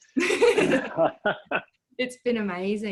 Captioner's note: both laughing